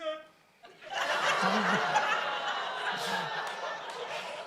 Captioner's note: audience laughs